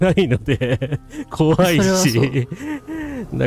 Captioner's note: laughter